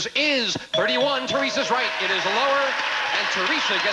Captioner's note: audience applauding